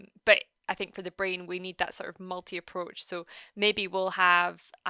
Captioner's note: none